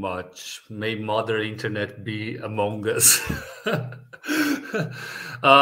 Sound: laughs

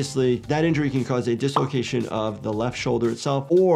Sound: graphic pops

